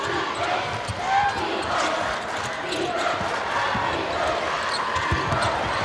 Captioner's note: crowd